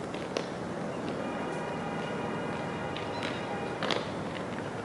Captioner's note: car horn blaring; leaves rustling; wind howling